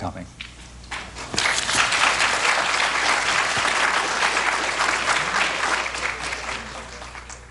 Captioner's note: applause